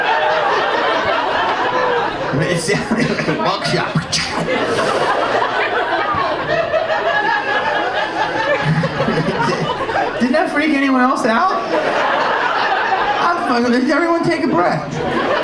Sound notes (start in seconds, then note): 4.7 audience laughing; 11.8 audience laughing